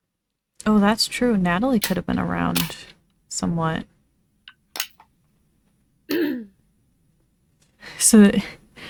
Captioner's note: clears throat